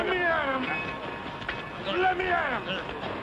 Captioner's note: shouting